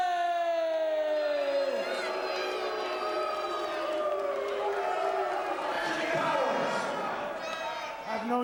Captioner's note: crowd cheering